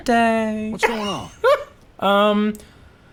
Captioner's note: laughing